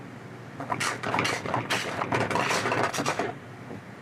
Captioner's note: sound of sauté pan being jostled